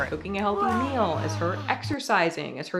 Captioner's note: roaring